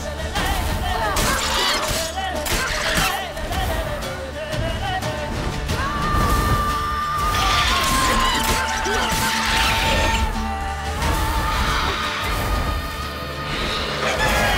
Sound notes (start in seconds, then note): 1.2 squeal; 7.2 squealing